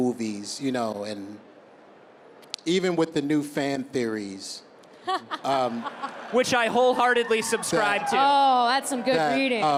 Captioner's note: a few cheers